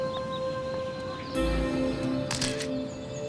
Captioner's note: camera shutter clicks